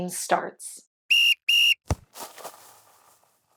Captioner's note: whistle blowing, kicking sound